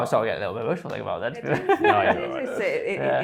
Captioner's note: laughs